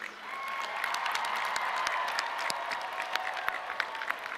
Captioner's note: audience cheering